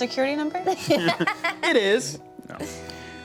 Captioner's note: laughs